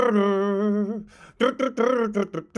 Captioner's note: imitates guitar